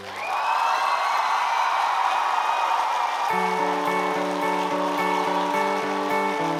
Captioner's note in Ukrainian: оплески